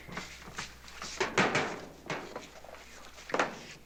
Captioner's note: clanging